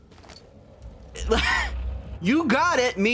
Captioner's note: exasperated noise